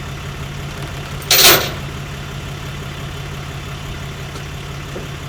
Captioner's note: chains clattering